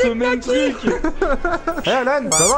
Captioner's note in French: rire